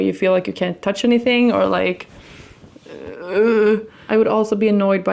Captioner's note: groans